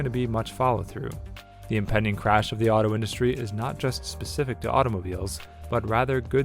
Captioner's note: voiceover